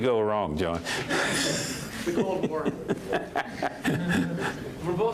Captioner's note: laughs